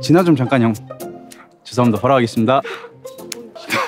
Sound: he can't stop laughing

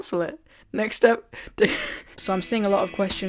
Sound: laughs

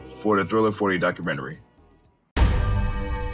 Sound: Thriller 40 Documentary plays

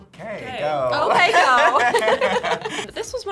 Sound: both laugh

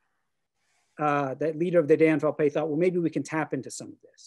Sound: german

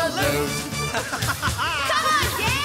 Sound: laughter

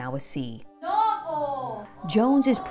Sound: teacher speaking Spanish

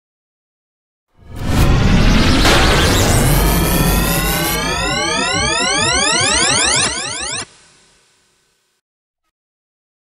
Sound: sound of science fiction

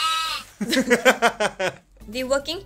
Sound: laughs

